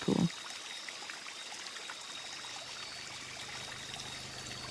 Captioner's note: rainforest sounds continued